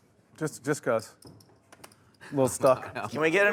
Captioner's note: voiceover